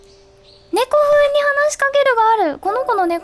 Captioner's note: talk cattishly